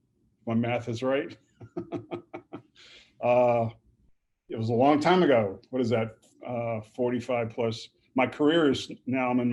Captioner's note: chuckles